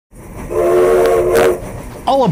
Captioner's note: train whistle blows